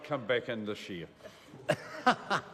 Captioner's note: laughs